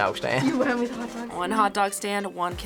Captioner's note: laughs